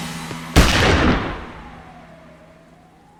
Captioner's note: gunshot